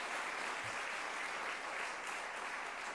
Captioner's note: applause